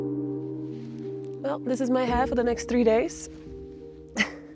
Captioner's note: eerie music; chuckles